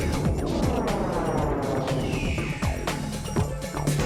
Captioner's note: whoosh!